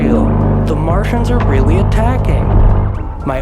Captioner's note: metallic “groaning”